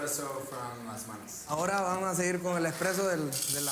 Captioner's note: spanish Continues